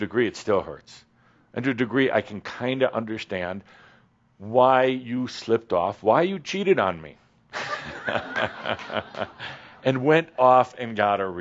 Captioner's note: laughter